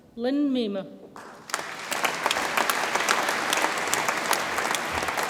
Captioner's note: audience applauds